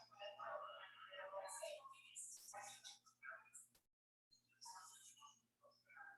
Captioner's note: people chattering indistinctly